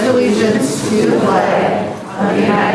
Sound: crowd

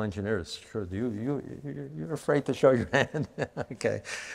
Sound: chuckles

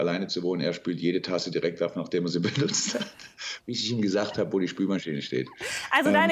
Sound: laughing

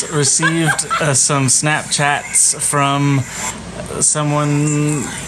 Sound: laughs

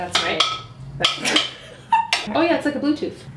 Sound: laughs

